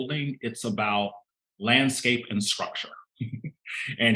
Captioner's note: chuckling